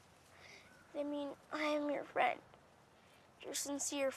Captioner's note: voice breaking